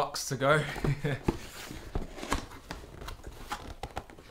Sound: laughing

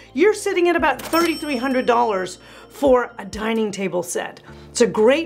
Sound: bell rings

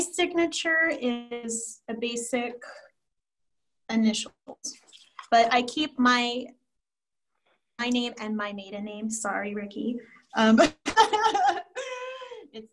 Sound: laughs

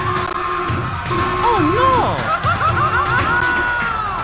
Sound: screaming

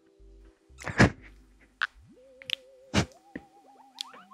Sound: laughing

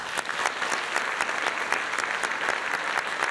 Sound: applause

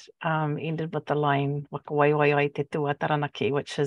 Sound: speaking Maori

